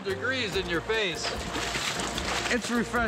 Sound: water splashing

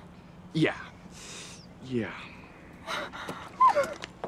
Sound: crying

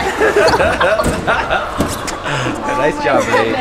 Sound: laughter

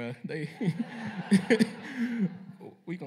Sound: laughter

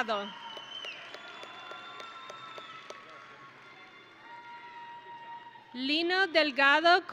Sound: audience and graduates cheering

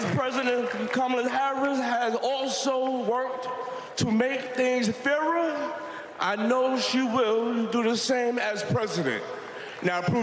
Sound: cheers and applause

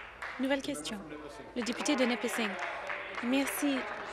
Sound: applause

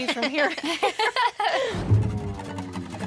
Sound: everyone laughing

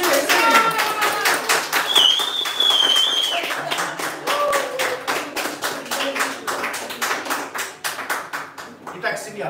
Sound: the newlyweds enter the room, applause from the guests

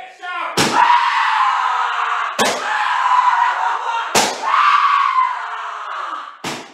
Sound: Vortex screaming

